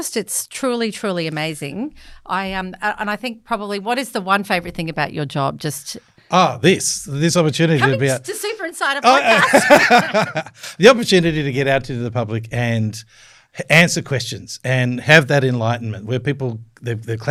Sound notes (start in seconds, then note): 9.0 laughter